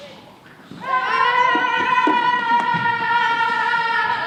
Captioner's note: sailors yelling